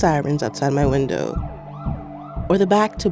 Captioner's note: soundbite of siren wailing